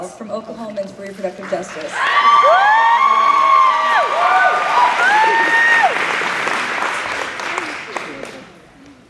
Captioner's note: cheering